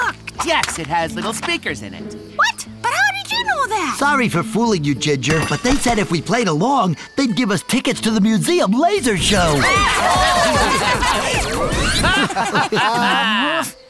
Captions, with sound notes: Yes, it has little speakers in it. -What? But how did you know that? -Sorry for fooling you, Ginger. But they said if we played along, they'd give us tickets to the museum laser show! [all laughing excitedly] [all laughing]